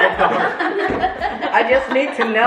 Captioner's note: family laugh